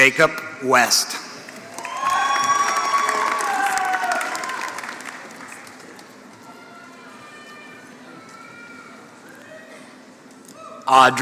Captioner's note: applause